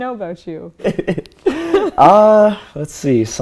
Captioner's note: he laughs